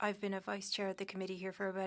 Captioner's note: speaking French